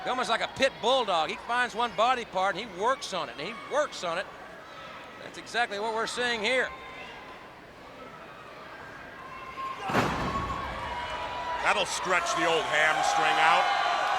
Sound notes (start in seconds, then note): 9.6 wrestlers grunting; 9.8 body thudding